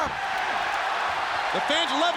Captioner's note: audience cheers